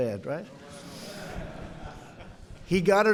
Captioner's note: laughter